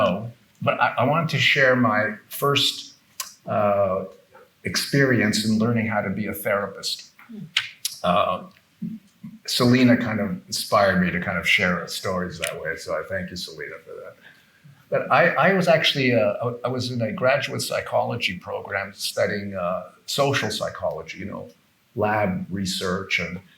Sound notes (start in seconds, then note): none